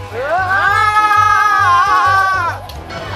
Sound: argh!

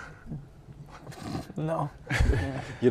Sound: laughing; laughing

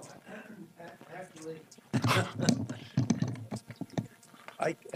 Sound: laughter

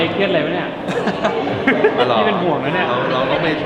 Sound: laughs

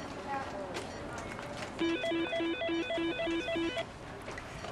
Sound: phone rings

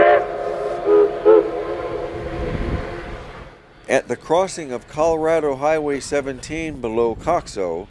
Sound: echoing whistles

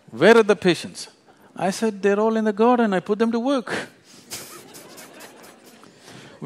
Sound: laughter

